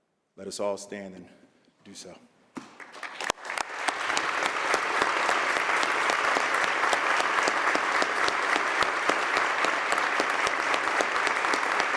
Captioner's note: applause